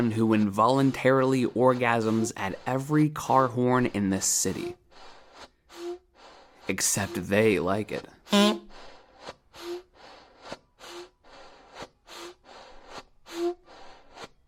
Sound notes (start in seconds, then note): 8.2 air puffs and horn beeps; 8.3 beep